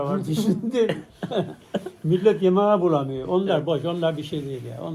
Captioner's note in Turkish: kahkaha